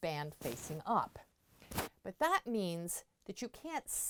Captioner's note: mic interference